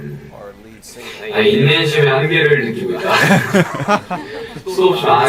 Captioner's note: giggles